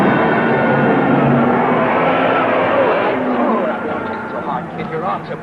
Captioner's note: explosion booming; crowd cheering; car revving